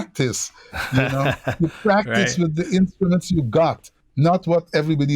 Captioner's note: laughter